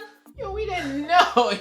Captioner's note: laughs